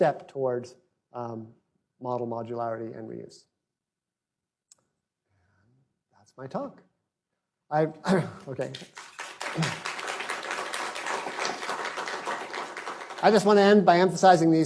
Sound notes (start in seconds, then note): 8.2 applause